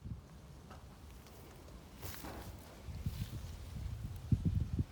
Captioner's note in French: bruit de vent